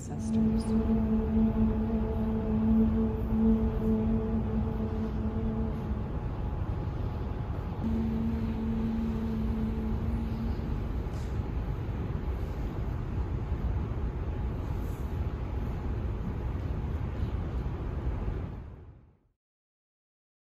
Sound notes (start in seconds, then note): 0.0 dancers humming; 11.0 white noise